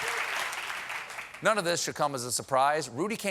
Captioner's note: applause